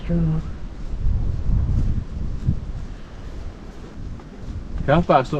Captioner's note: wind